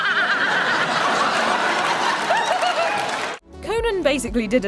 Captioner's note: laughing